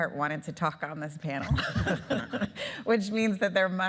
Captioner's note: laughing